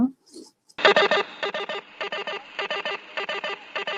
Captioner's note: alarm ringing